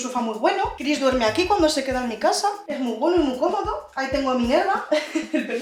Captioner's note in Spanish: risas